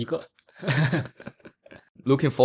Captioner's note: laughs